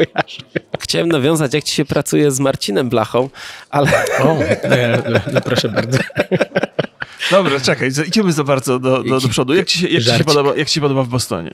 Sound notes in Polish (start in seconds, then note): 3.8 śmiech